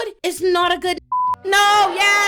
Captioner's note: beep